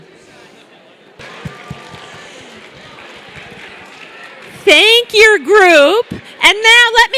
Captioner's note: applause